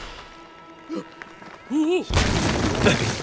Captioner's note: gasps